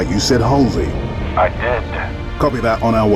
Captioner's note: radio